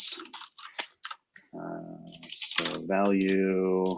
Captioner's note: typing